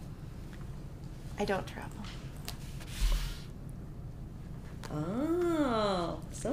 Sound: paper shuffling

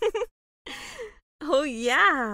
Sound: laughing

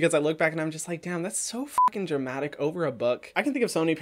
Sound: beep

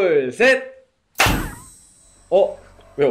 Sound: clap

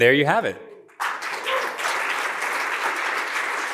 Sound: cheering and applause

